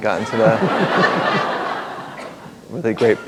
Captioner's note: laughter